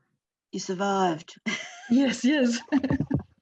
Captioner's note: chuckles